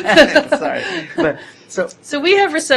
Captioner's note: laughter